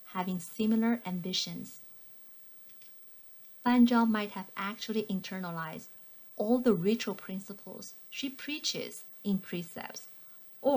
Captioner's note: click